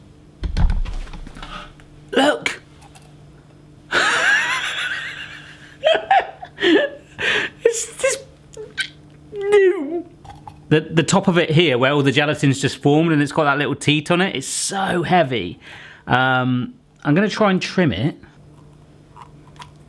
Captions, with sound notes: Look! (laughing) It's just-- No! The top of it, here, where all the gelatin's just formed and it's got that little teat on it? It's so heavy! I'm gonna try and trim it.